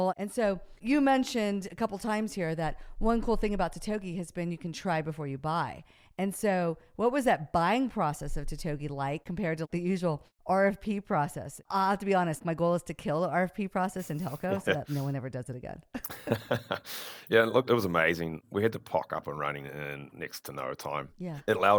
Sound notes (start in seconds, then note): 16.0 both laugh